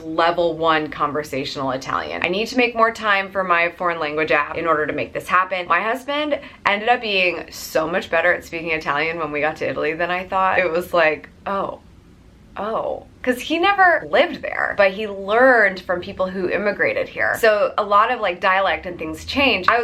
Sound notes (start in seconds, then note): none